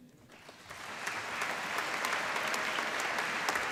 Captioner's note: applause